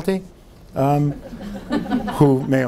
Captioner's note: audience laughing